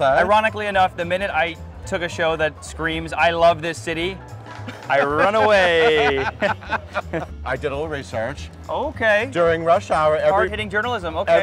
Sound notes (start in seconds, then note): 4.4 laughing